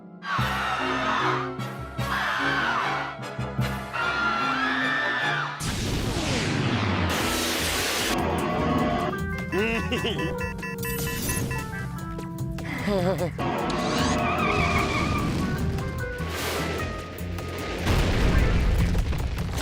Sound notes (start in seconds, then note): 0.3 stuttered screaming; 9.5 giggles; 9.7 alert beeping; 12.6 nervous chuckle; 13.7 screeching noise